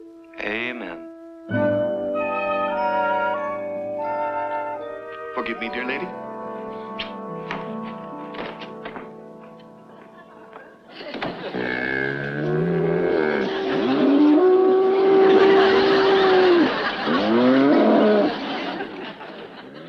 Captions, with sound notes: - Amen. (gentle music) - Forgive me, dear lady. (buffaloes moaning) (buffaloes bellowing) (audience laughs)